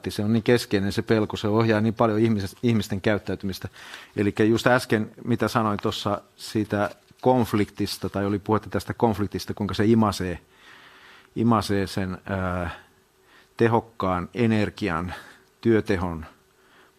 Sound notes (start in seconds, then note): none